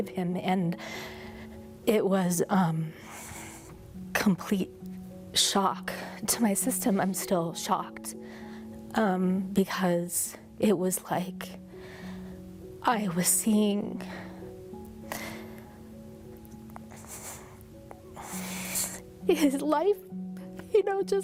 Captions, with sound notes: AND IT WAS... COMPLETE SHOCK TO MY SYSTEM. I'M STILL SHOCKED BECAUSE IT WAS LIKE I WAS SEEING... [BREATHING HEAVILY] HIS LIFE, JUST...